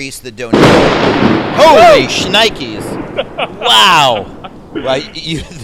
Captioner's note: sounds of thunder in the background